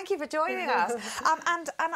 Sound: laugh

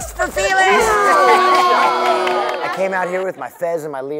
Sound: all cheering

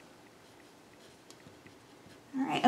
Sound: pencil scribbling

